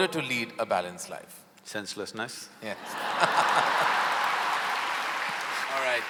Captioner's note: laughter/Applause